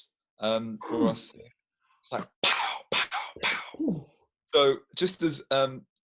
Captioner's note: blowing